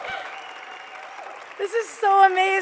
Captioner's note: applause